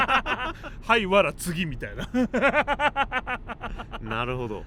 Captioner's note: laughs